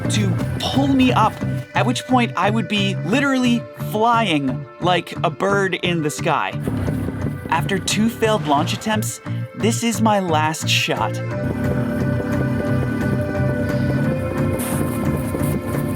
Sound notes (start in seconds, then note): 11.4 motor humming